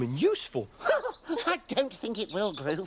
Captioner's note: chuckles